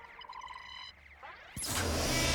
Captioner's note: video game beeps